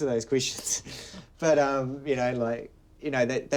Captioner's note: laughs